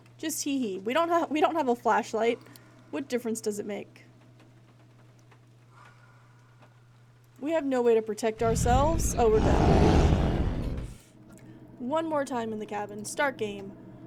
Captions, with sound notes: Just hehe. We don't ha- We don't have a flashlight. What difference does it make? [Hissed Breath] We have no way to protect ourselves. [Growling] Oh, we're dead. [Growling] One more time in the Cabin. Start Game!